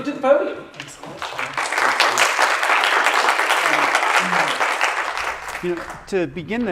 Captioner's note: applause